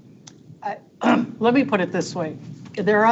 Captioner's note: clears throat